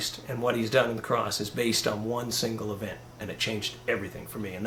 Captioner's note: none